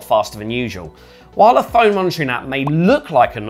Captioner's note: soft popping